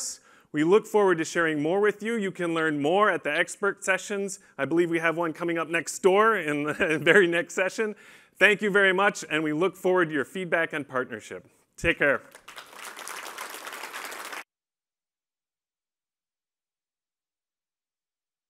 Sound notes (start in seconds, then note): 12.0 applause